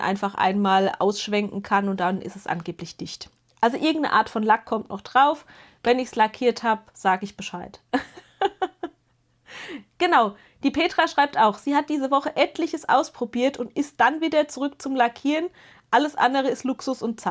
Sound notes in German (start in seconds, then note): 7.9 gelächter; 9.4 japst